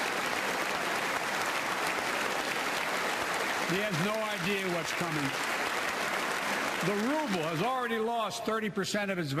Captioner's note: applause